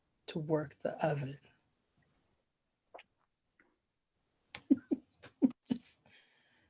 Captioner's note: laughs